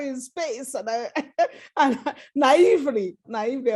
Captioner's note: laughter